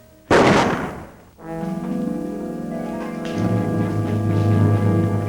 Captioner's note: gun shot